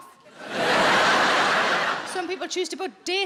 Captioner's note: audience laughs